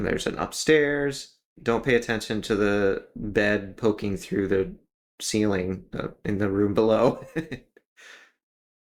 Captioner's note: laugh